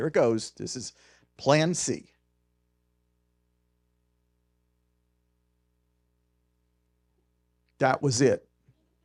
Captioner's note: silence